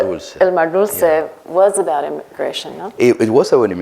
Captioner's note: none